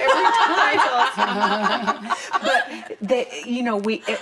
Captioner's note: laughter